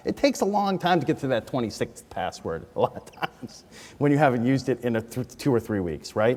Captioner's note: laughs